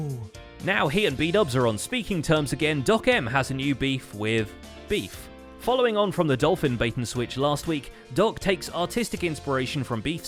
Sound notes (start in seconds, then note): none